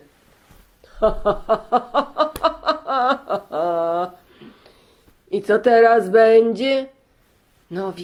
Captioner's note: laughing